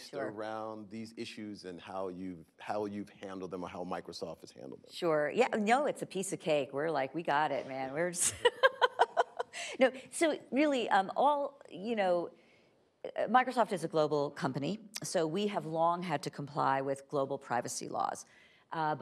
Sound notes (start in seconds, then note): 8.2 laughing